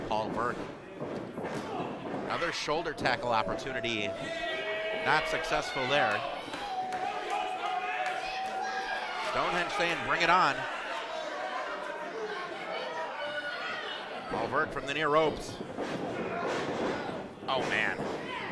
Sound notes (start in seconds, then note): 6.9 kids screaming; 11.9 crowd shouting